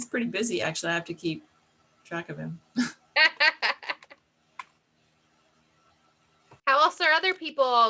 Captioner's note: chuckle; laugh